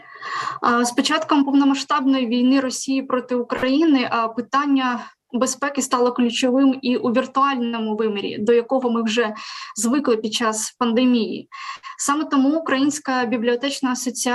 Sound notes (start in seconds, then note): 0.9 foreign Language